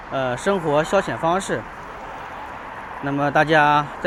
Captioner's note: 英语; 英语